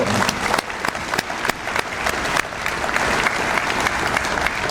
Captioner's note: audience applauds